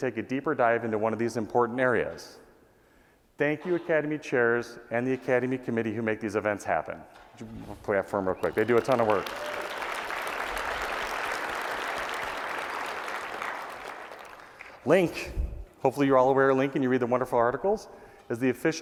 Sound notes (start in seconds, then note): 8.3 applause